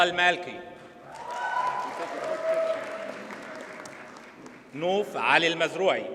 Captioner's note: audience cheers and applauds